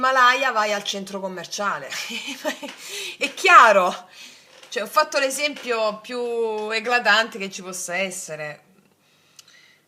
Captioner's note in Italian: risate